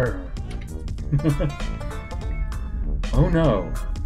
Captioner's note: chuckles